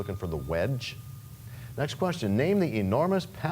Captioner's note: bell rings, time expires